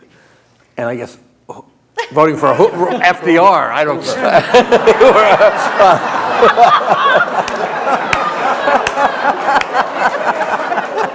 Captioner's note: laughter